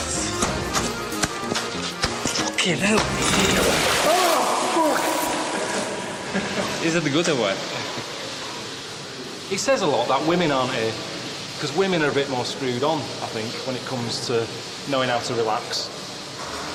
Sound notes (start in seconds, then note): 6.2 laughs